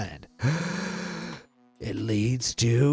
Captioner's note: breaths deeply